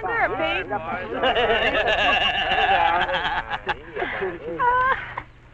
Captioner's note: Pete laughing like a hyena